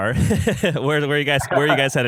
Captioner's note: laughs